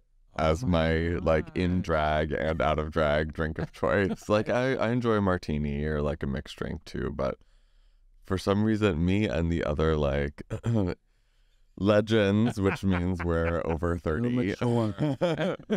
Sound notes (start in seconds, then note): 3.6 laughs; 10.5 clears throat; 12.3 Sasha laughs; 12.3 laughs